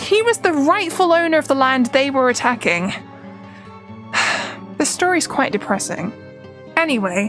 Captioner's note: sighs